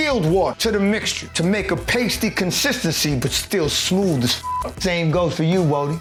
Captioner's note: beep